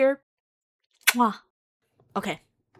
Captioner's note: mwah